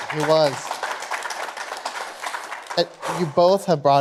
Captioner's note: applause